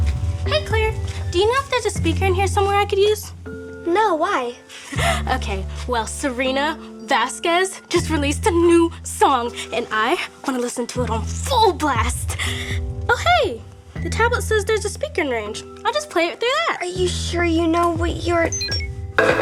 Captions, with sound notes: - Hey Claire, do you know if there's a speaker in here somewhere I could use. - No, why? - (laughs) Okay, well, Serena Vasquez just released a new song and I want to listen to it on full blast. Oh hey, the tablet says there's a speaker in range. I'll just play it through that. - Are you sure you know what you're-